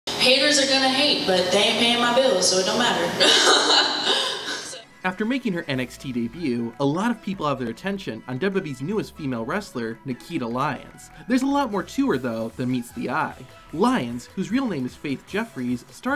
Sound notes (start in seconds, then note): 3.2 laughs